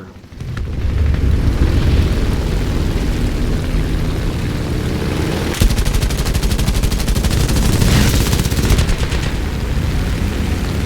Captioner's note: aircraft Engines ,Gunfire, Flying Sounds